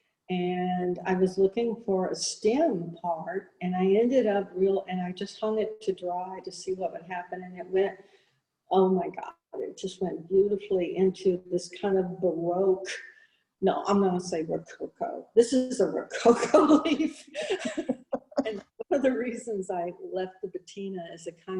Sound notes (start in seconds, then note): 17.4 both laughing; 17.4 laughing